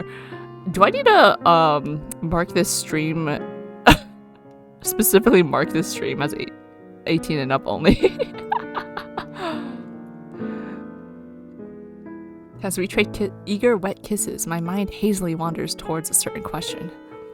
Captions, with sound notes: Do I need to um, mark this stream [laughs] Specifically mark this stream as 18+ only? [laughs]